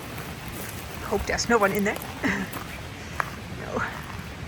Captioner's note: laughs